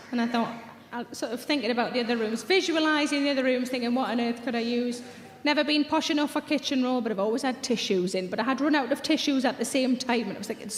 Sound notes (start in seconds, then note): none